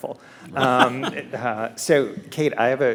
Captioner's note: laughs